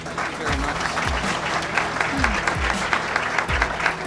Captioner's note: applause